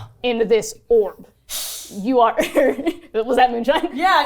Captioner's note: hissing